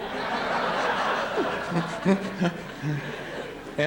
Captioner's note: laughter